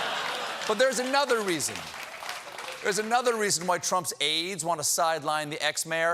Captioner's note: laughter